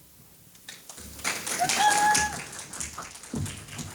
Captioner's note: audience Applauds